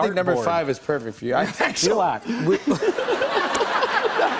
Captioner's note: laughter